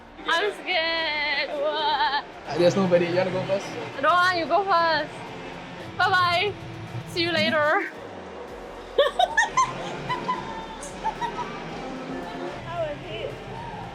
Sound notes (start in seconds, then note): 8.9 laughs